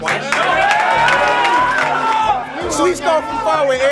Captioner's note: cheers and applause